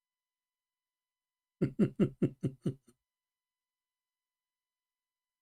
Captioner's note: Ketawa